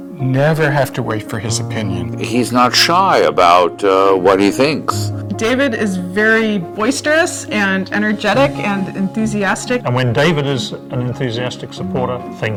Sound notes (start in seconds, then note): none